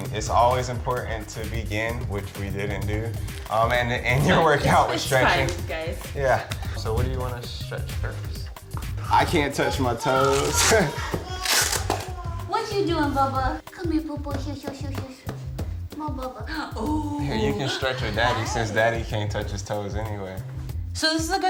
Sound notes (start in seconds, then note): 10.2 baby giggling; 15.4 babbling